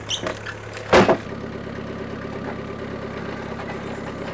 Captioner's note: slab banging; engine rumbling